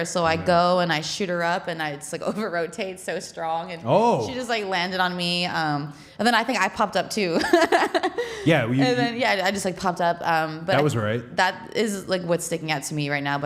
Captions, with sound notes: So I go and I shoot her up and I over-rotate so strong. And she just like landed on me. And then I think I popped up, too. (laughing) Yeah, you-- Yeah, I just like popped up. That was right. That is like what's sticking out to me right now.